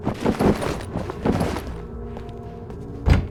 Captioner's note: noise when opening the door